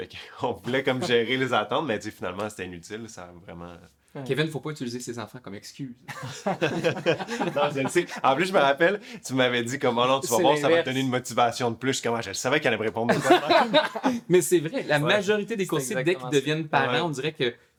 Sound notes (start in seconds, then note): 6.1 laughs; 13.1 laughs